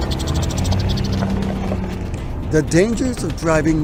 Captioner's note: ardillas chirriantes